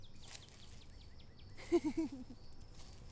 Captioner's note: stifled giggling